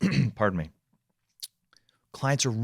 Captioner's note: clearing throat